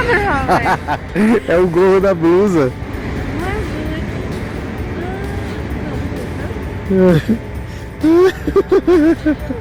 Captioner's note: laughter